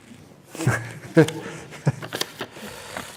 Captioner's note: laughs